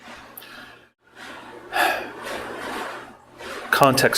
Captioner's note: sighs